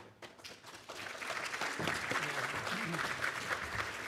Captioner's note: audience clapping